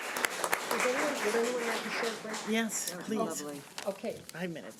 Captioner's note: audience applause